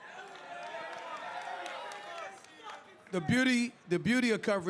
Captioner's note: crowd cheers